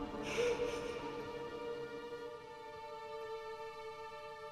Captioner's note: William sobbing